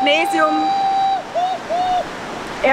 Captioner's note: cheering in background